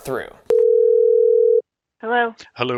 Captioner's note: phone ringing